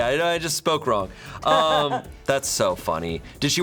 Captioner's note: crew member laughs